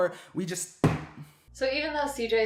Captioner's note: smack